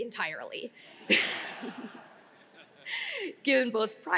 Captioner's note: audience laughing